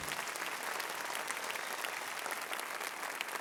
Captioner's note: applause